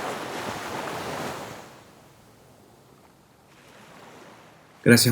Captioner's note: sound of the Caribbean sea shore